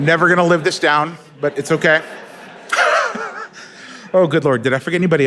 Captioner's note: laughs